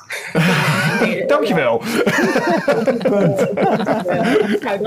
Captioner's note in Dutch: Gelach